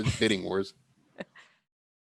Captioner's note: laughs